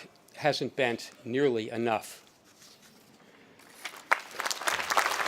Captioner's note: audience applauding